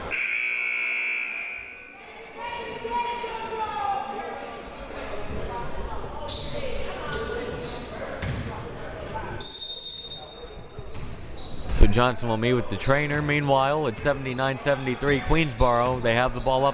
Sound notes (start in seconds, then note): 0.0 buzzer; 9.4 whistle